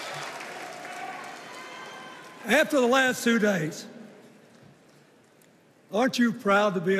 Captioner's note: cheers and applause